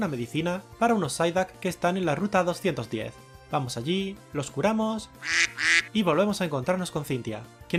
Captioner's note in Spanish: ruido de patos